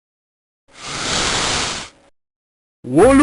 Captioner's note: breathes in